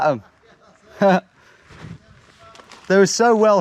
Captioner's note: chuckles